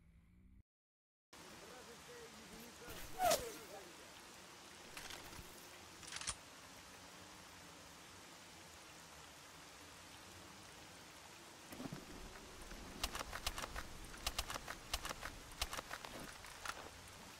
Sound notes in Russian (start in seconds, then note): 2.9 свист пули